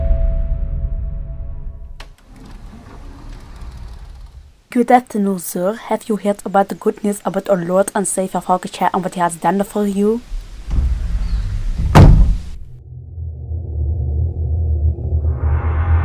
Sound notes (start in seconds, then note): 1.9 door opens; 10.3 door shuts